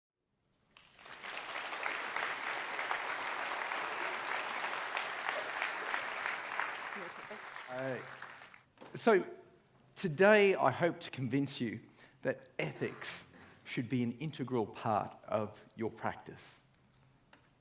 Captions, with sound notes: (audience applauding) - Hey. So today, I hope to convince you that ethics should be an integral part of your practice.